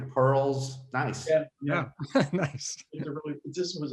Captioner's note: chuckles